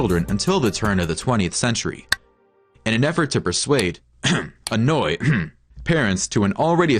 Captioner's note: cough